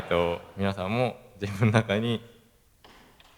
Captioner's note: laugh